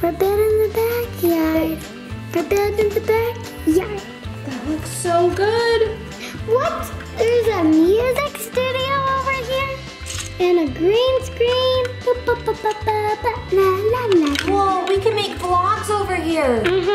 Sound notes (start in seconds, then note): 12.3 humming